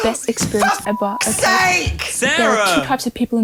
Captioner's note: beep